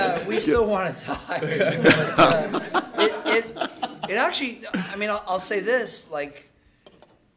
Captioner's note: laughter